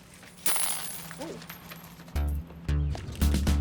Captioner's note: coins falling